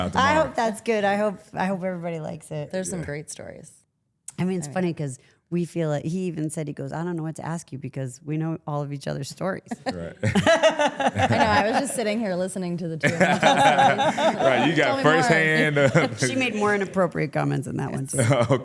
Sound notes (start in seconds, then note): 9.7 laughs; 13.0 laughing